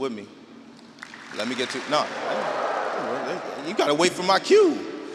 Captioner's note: audience clapping and wooing